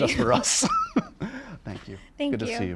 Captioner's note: laughs